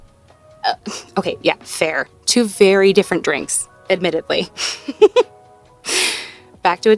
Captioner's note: laughs